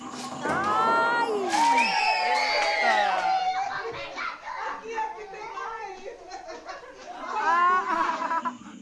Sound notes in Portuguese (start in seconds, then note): 2.3 gritos de euforia